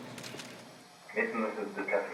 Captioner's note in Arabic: الكاميرات تلتقط الصور